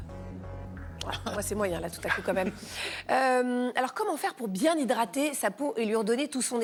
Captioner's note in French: rires